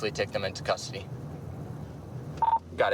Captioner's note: radio beeps